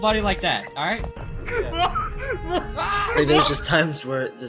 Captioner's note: crew laughing